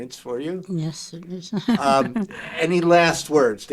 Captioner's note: chuckling